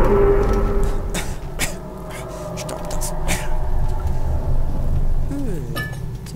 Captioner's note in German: hust, hust